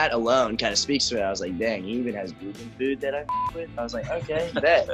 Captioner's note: beep